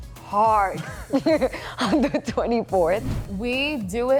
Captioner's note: laughing